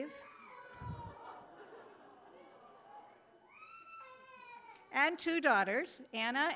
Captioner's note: child screaming, audience laughing